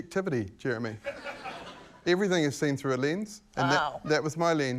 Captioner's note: laughter